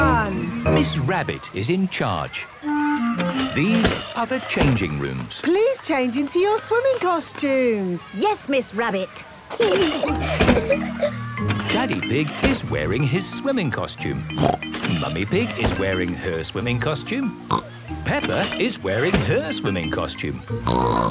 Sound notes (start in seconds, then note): 9.5 giggling; 14.3 snorts; 17.4 snorts; 20.6 snorts